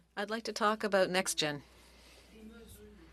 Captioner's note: speaking French